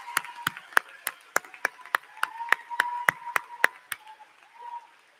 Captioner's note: applause